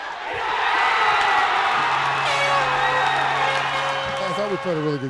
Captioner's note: cheering